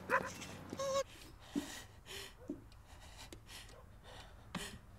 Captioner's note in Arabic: دقات الساعة